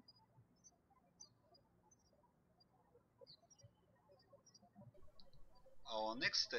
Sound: birds chirping

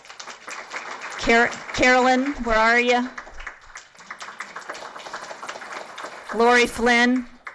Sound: applause

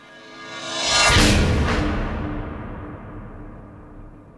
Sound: dramatic banging

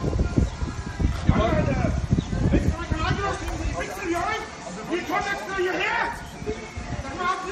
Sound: more yelling between Rainer and hater

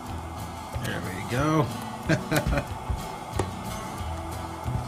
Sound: laugh

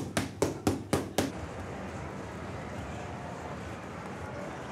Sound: distant chatter

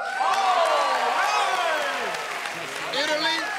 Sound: cheers and applause

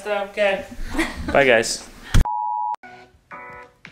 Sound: beeping

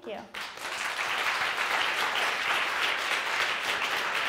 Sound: audience applauding

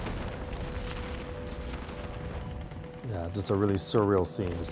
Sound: gunfire explosions

